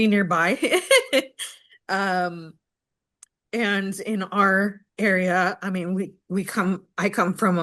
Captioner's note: laughs